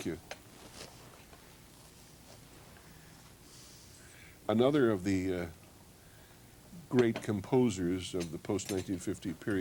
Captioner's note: pause